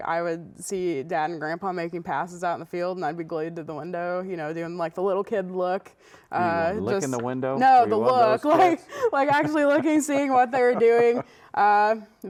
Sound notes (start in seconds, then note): 9.0 laughing